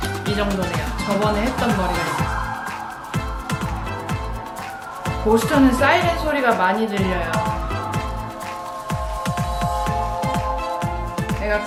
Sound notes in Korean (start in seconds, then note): 3.3 사이렌 소리 난리, 난리 ㅋㅋ